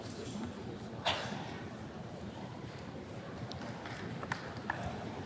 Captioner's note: attendee coughing